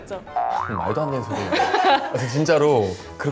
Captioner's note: upset